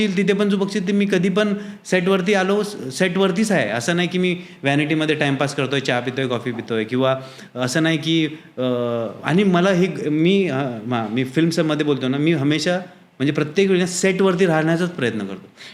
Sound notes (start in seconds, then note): 7.3 rambling